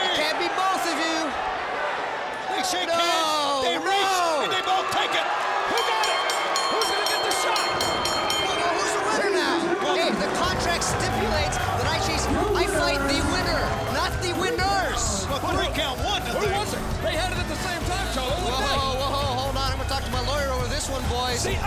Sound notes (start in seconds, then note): 5.7 bell rings